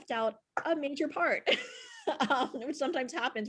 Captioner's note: laughs